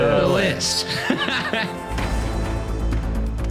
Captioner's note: laughing; upbeat, dramatic music